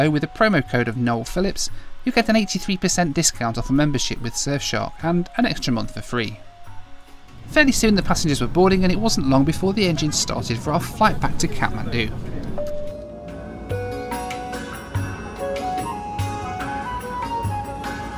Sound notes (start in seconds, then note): 12.5 bell dings; 14.6 oriental music